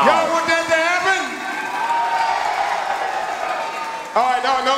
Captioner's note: audience cheering and clapping